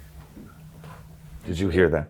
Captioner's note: object thuds softly